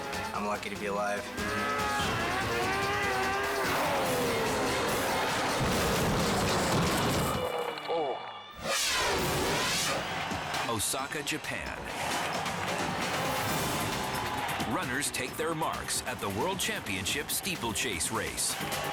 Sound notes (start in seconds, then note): 1.2 engine revving; 5.4 snowmobile crashing; 8.8 dramatic music